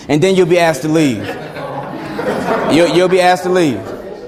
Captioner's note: students laughing